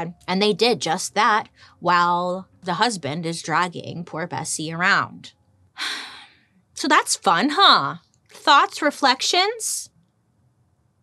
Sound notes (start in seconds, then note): 5.8 sighs